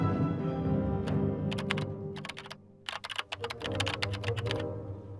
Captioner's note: keyboard buttons clicking